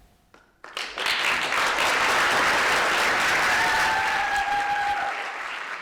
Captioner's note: audience applauding and cheering